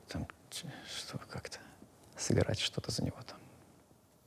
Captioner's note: whispering